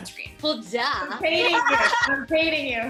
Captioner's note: laughs